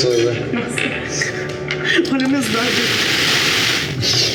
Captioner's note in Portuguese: risada